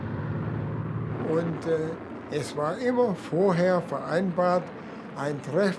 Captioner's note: speaking German